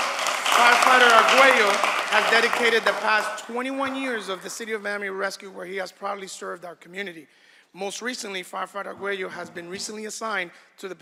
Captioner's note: applause